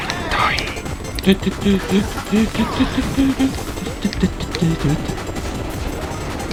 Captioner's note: humming along the theme